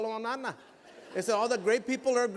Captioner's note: laughter